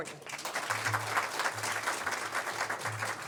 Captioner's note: applause